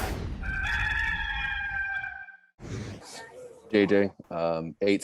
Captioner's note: rooster crows